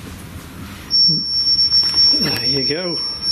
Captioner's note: beeping